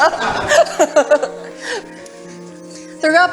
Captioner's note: laughter